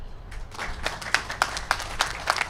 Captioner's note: applause